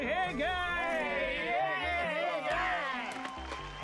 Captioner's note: shouting